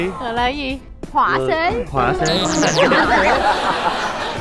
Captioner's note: laughing